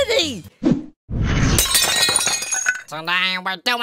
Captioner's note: shattering sound